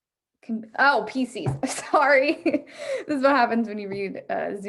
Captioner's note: chuckles